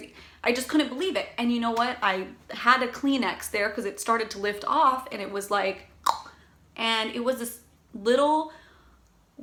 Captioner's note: snap